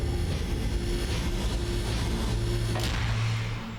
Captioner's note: hatch whirs open